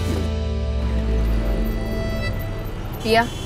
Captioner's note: Traffic sound